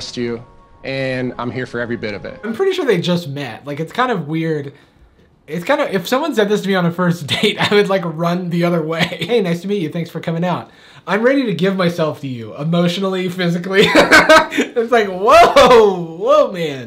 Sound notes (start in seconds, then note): 13.8 laughs loud